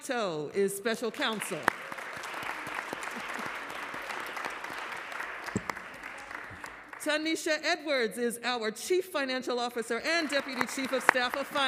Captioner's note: applause